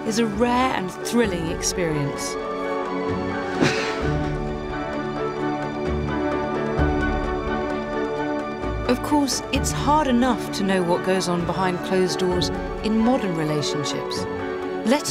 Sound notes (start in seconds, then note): 3.5 sighs; 3.7 body thuds